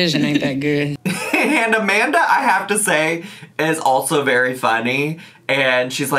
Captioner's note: laughing